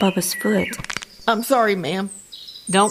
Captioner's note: bones cracking